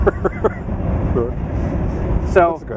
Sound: laughing

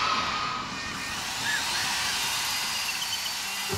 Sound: drilling Noises

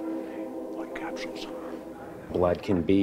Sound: whispers

